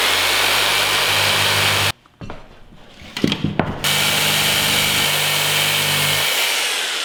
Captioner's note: sawing sounds